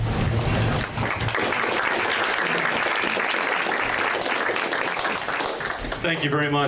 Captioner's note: applauding